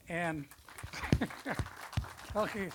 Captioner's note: audience applause